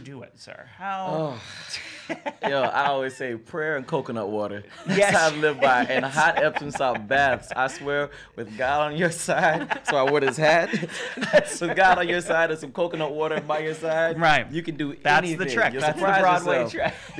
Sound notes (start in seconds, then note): 1.0 sighs; 7.9 both laughing